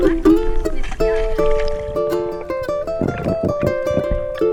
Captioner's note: guitar music; splashing; guitar music